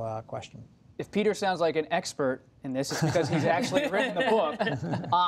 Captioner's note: laughter